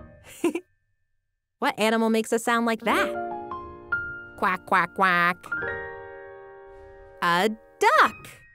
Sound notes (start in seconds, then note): 0.3 laughing